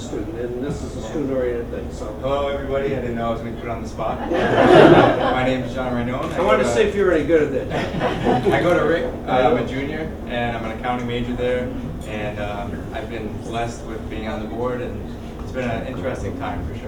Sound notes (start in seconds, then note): 4.2 laugh